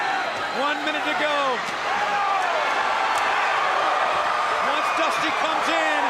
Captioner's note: crowd cheering